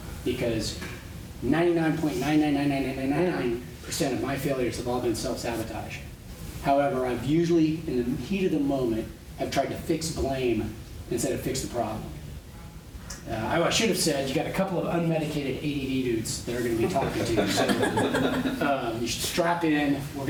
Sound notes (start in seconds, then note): 16.7 laughter